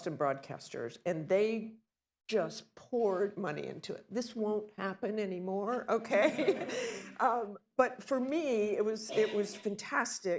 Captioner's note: laughter